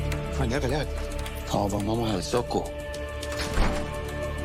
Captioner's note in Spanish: Parcero exclama